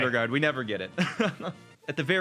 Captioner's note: chuckles